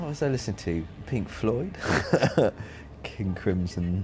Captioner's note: laughs